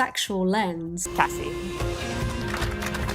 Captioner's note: applause